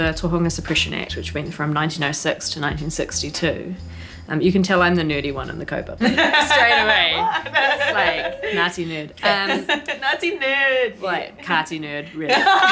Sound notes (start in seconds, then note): 6.0 laughs; 12.2 all laughing